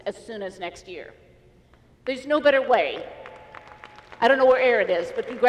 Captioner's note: applause